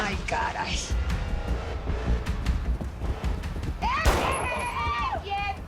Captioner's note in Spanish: Disparo